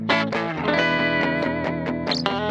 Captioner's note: none